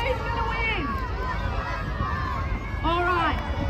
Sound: crowd continues to shout out their favourites

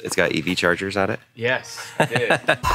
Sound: laughs

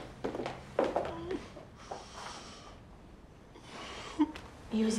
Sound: crying

